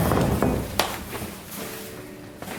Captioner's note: cage being closed; butt smack; footsteps